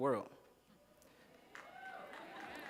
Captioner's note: cheers